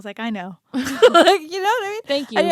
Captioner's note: laughs